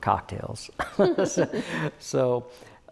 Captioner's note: both laugh